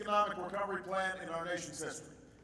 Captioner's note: applause